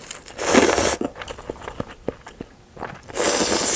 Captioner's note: the teeth clicking sound